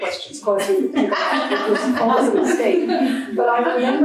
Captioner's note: speaker drowned by audience laughing